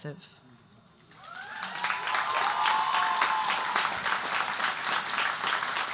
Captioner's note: audience cheering and applauding